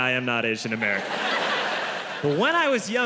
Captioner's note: audience laughs